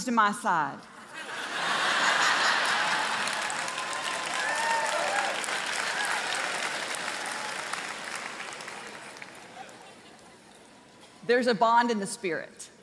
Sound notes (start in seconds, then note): 3.9 congregation laughing